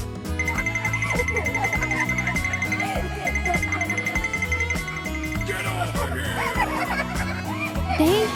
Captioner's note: laughter